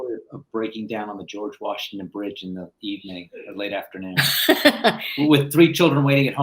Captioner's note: laughter